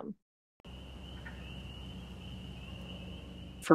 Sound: nature sounds

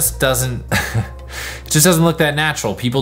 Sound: laughs

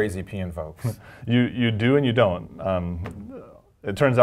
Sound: laugh

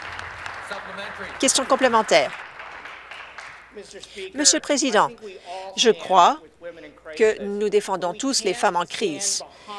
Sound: applause

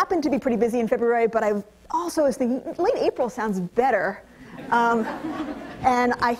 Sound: audience laughter

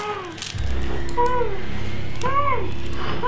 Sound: gagging

